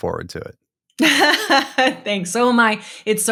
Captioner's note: laughing